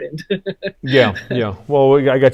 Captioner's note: laughing